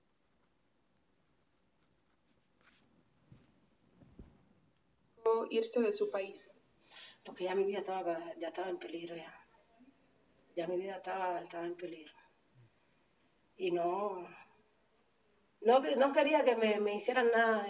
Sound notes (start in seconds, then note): 5.6 speaking spanish